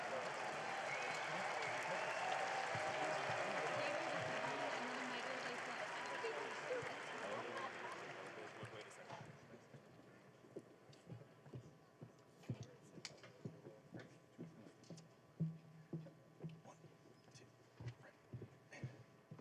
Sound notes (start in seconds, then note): 4.8 cheering and applause